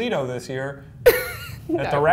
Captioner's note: laughter